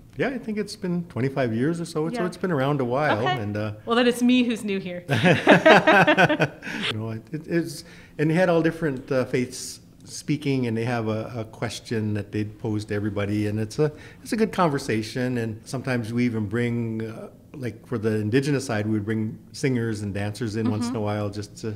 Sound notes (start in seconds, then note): 5.1 laughs